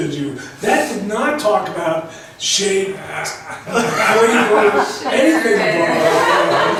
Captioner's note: laughs; voiceover